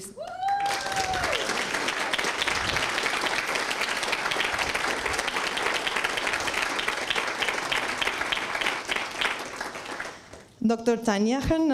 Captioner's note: applause and screams